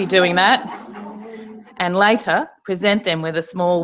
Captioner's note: laugh